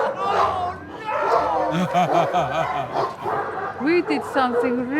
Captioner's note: laughing